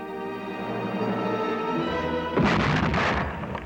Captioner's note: thunderous crash